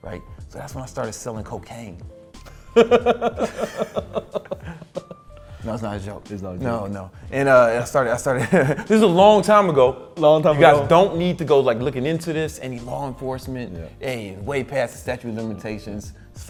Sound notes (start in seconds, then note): 2.5 laughing